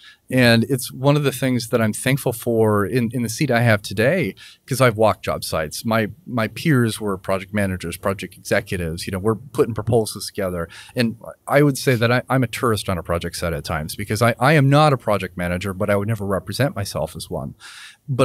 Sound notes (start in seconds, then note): none